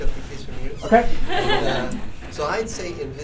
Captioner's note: laughter